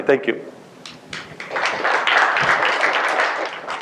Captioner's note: applause